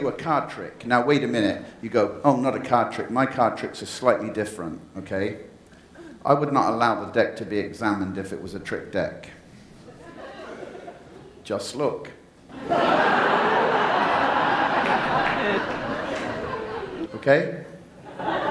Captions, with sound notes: - You a card trick. Now wait a minute. You go, oh, not a card trick. My card tricks are slightly different, okay. I would not allow the deck to be examined if it was a trick deck. (audience laughs) Just look. (audience laughs) Okay?